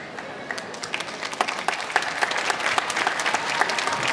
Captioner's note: clapping